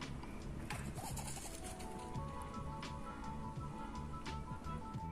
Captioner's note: leaves rustling